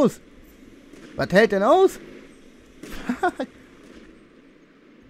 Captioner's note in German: Lacht